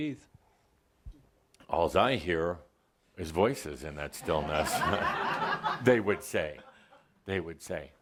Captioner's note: laugher